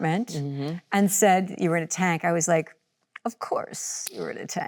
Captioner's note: slaps